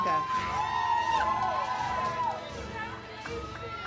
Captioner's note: audience cheers